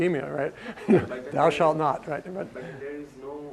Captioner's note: laugh